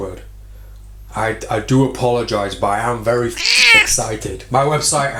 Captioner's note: cat screech